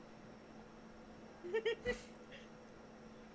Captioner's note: laughing about capes some more